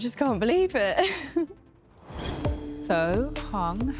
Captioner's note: laughs